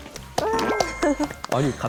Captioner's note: applause